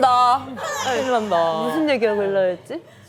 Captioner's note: laughs/Cries